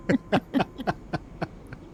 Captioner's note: laughter